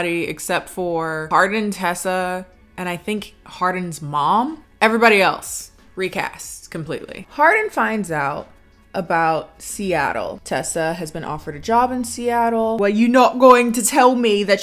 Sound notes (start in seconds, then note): none